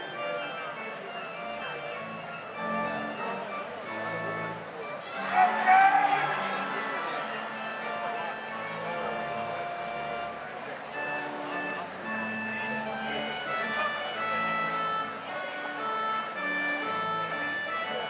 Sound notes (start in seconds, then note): 5.4 audience cheers; 10.3 slow organ music continues